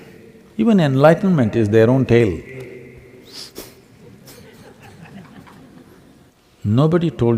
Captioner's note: laughter